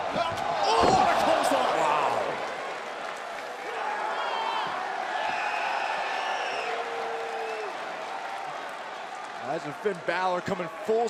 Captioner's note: crowd cheering